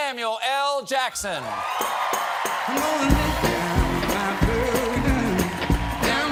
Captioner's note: cheers and applause